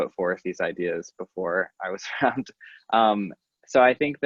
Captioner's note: laughing